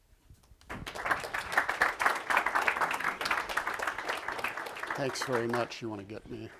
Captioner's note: applause